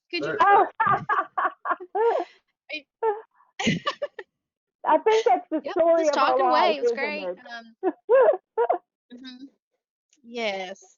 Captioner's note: laughs; laughs